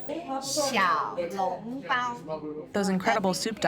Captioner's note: speaking chinese